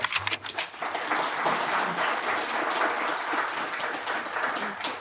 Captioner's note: applause